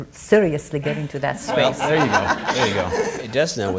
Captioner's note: all laughing